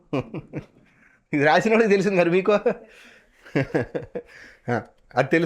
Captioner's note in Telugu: నవ్వు